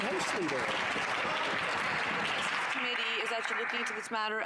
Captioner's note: some Applause